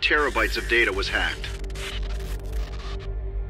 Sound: SFX: static

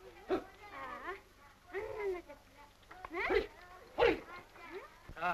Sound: noise to encourage a horse

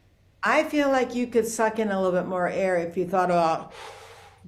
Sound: breathes in

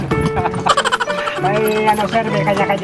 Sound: chukles and laughing

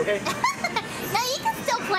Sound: laughing

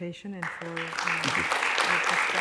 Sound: applause

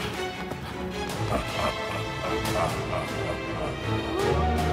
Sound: sinister laugh; wolf howl

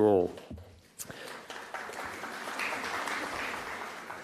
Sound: applause

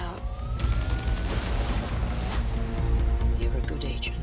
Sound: sirens wail

